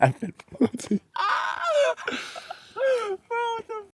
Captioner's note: laugh